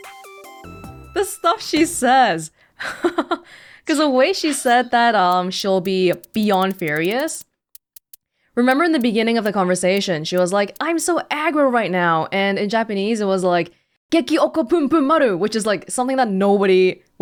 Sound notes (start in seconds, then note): 2.3 chuckles